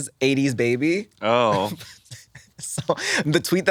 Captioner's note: laughs